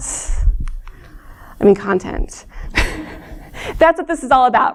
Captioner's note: laughter